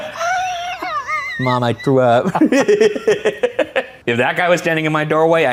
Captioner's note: laughs